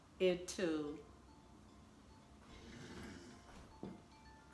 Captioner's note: phone chiming